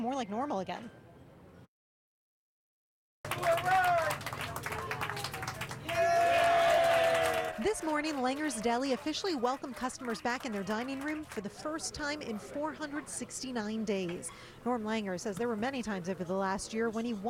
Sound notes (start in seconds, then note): 5.2 applause